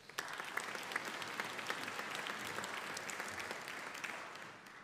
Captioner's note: audience applauding